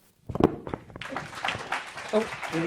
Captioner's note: audience clapping